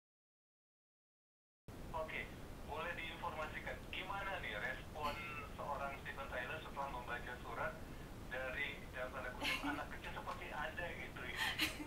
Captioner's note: laughing